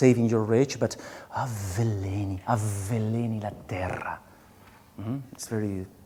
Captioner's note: speaking in a foreign language